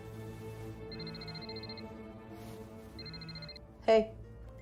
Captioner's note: phone ringing